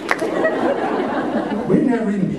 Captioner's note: laughter